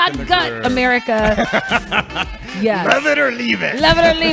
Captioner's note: laughing